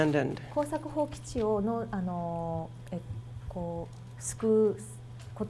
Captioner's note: speaking foreign language